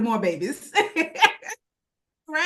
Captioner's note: laughs